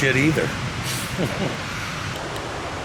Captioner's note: chuckles